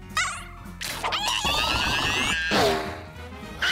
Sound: screaming

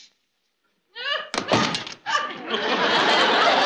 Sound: thunk

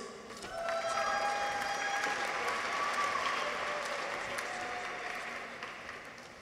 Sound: people cheer; audience applauds

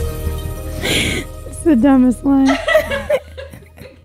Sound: laughing

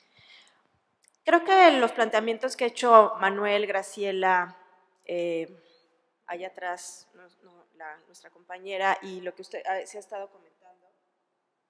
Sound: speaking spanish

